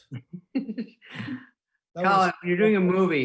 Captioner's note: laughing